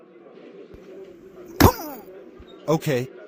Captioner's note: thump